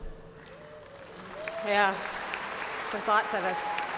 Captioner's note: cheers and applause